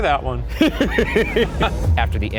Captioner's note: chuckles